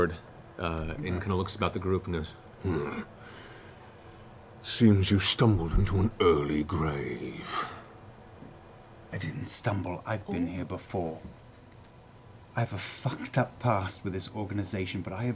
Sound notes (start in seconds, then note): 2.6 grunts